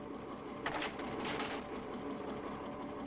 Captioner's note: engine humming